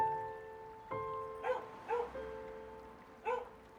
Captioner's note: dog barking